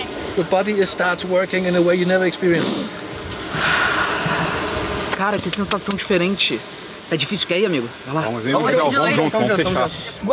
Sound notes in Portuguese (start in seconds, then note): 3.5 respirando fundo